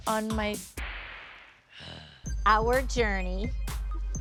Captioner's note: growls